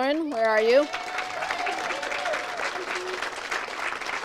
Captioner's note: audience cheers and applauds; audience applauds